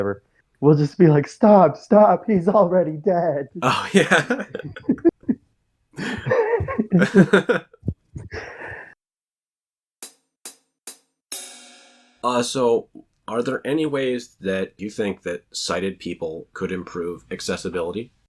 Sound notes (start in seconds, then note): 8.5 both laugh; 12.8 drum transition sound